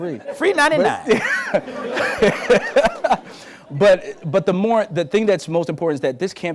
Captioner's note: laughs